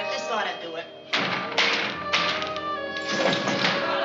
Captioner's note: window rattling